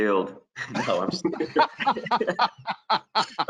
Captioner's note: all laughing